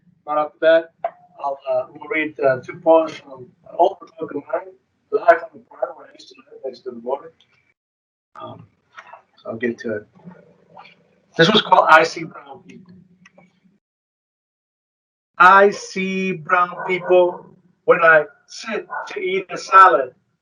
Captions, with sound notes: I'll read two poems from an old book of mine. (speaking distorted) So I'll get to it. This one's called "I See Brown People". "I see brown people when I sit to eat a salad, the onions,